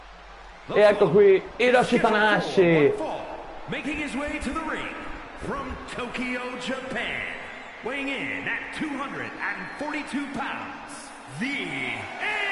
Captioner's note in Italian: Applauso